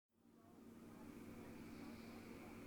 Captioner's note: night ambiance throughout